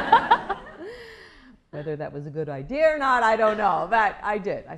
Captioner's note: laughter